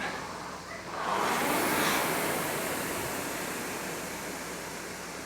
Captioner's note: rowing machine whirring